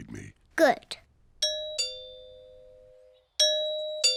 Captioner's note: doorbell rings